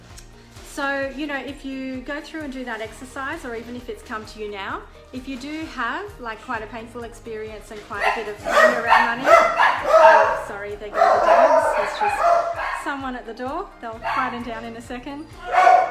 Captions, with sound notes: So you know if you go through and do that exercise or even if it's come to you now, if you do have like quite a painful experience and quite a (dogs barking) a bit of pain around money. Oh sorry they go (dogs barking loudly) someone at the door they'll quite down in a second .